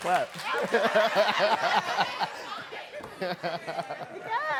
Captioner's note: laughing